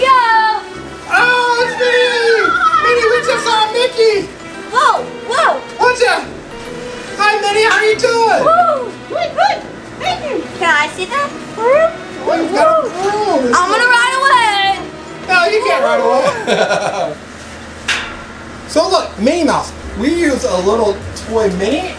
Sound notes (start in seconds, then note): 11.8 indistinct chatters; 16.2 cameraman laughs